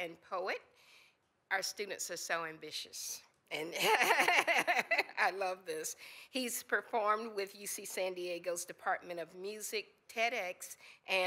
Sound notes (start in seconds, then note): 3.8 laughs